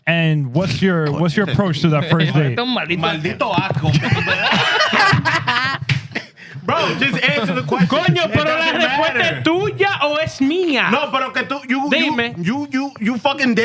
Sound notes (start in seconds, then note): 4.6 laughing; 4.6 speaking Foreign Language; 8.4 speaking Foreign Language